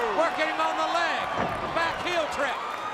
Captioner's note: crowd cheering